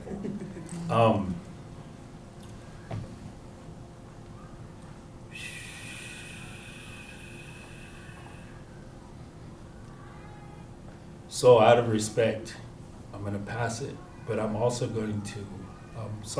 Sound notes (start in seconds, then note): 2.7 chuckles; 5.3 breathes deeply